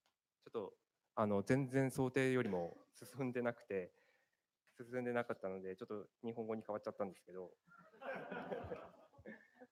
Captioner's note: speaking japanese; laughter